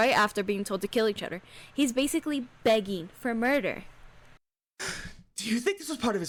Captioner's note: gasp